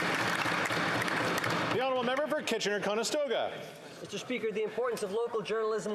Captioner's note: applause